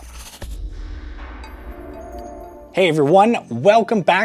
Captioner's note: logo whooshing